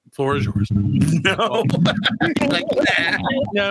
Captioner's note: laughing